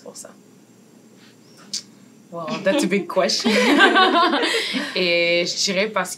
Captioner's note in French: rires